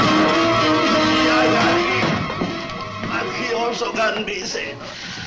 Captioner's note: dramatic orchestral music; Mario speaks Spanish